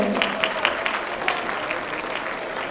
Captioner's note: applause